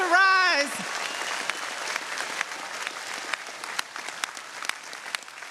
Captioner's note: audience cheering